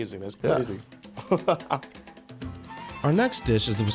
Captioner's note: laughing